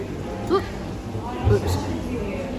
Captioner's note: vocalizes